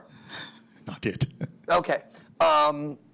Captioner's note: laughs